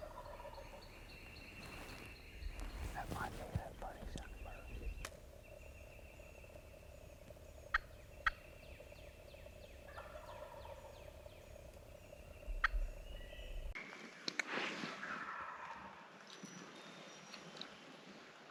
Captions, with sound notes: (turkeys gobbling) - That might be that funny sounding bird. (turkey call) (turkeys gobbling) (turkeys gobbling)